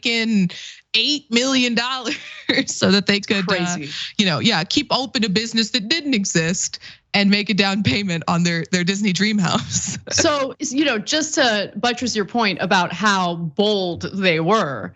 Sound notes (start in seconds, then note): 3.2 laugh; 9.8 laugh